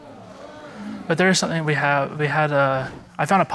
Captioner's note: audience exclaims